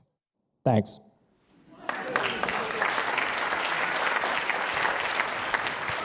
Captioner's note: audience applauding